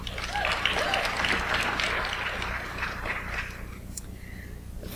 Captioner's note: audience applauds